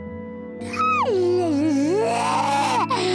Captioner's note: laughing; roars